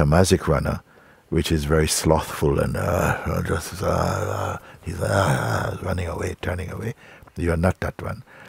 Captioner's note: langsames Laufen und Murren